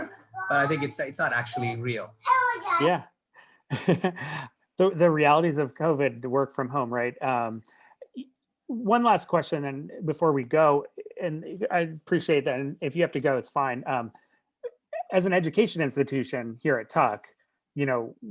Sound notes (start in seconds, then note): 0.0 child mumbling; 3.7 laughs